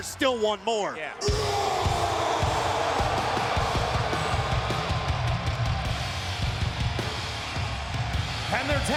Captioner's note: applause